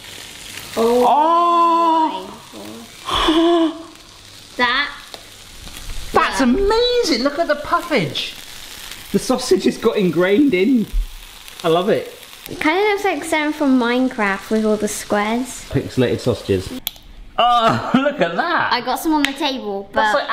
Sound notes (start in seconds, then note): 3.0 gasps